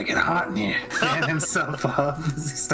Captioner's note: laughing